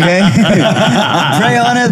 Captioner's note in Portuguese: risos